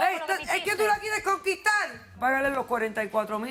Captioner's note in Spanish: Hablan al unísono